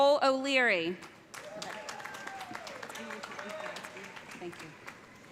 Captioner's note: cheers and applause